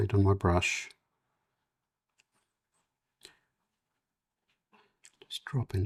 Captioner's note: silence